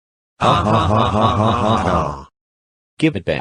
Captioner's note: Bill's friends laugh